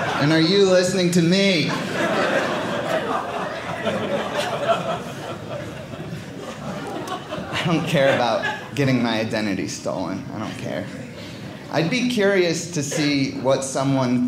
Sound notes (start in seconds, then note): 1.7 audience laughing